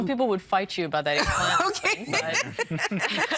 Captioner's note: all laughing